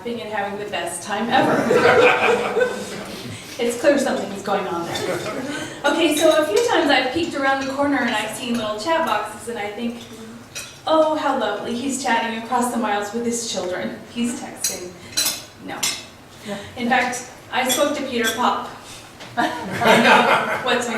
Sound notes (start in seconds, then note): 1.3 laughs; 19.4 laughs